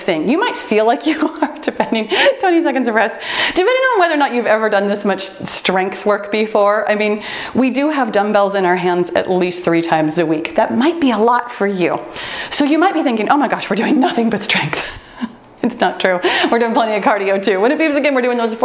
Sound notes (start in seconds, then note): 1.9 timer beeps